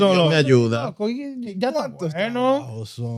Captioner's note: speaking In Foreign Language